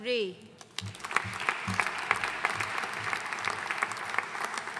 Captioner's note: audience applauding